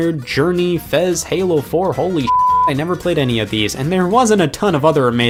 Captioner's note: beep